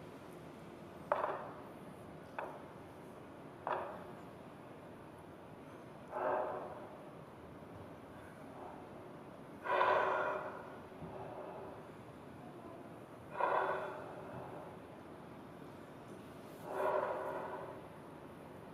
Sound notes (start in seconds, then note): 10.5 dancers breathing rhythmically